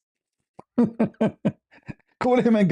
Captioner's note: ketawa